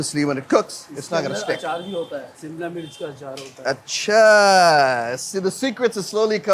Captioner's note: speaking in Hindi